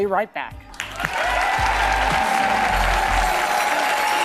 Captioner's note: applause